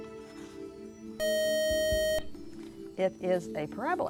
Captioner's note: buzzer